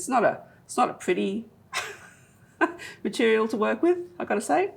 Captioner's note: laughs